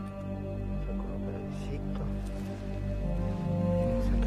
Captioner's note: speaking in foreign language